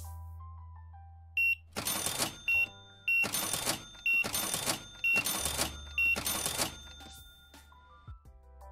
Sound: beeping

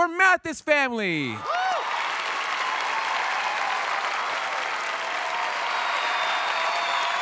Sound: audience applauding

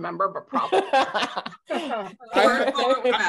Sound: laughing

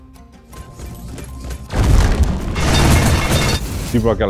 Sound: blaster sounds

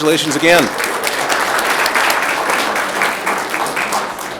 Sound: audience clapping

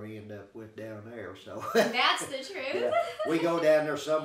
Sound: chuckling

